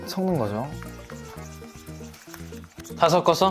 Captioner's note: shake shake